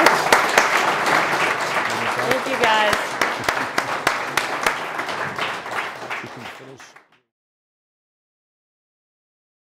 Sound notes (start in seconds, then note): 4.3 applause